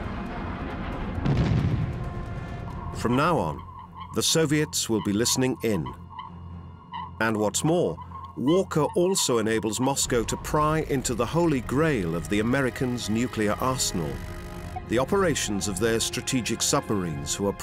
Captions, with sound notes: From now on, the Soviets will be listening in. [electronic beeping] And what's more, Walker also enables Moscow to pry into the Holy Grail of the American's nuclear arsenal, the operations of their strategic submarines